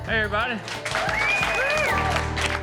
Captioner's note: cheering